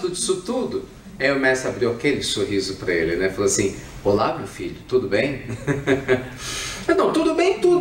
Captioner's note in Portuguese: Risos